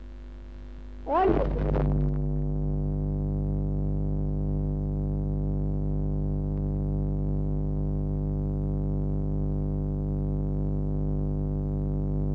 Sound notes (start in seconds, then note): 0.0 noise in mp3